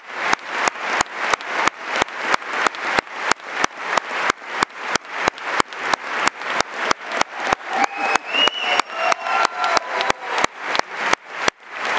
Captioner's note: applause